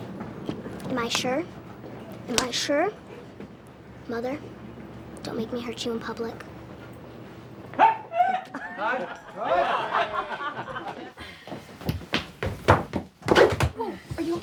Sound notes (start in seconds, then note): 6.9 man shouting; 8.2 laughter